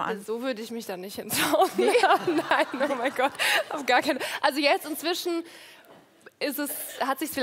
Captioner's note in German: Lachen